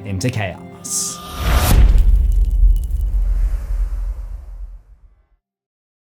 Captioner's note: impact